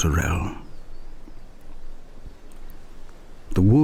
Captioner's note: wind and birdsong